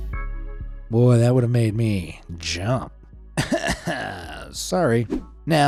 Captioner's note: gentle music continues; scoffs